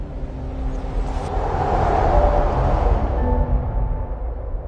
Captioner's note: storm whooshes